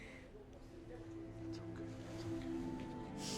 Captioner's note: Tommy whispers